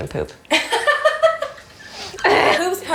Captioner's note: laughing